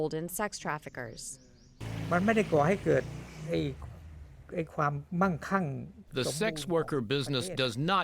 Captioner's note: through translator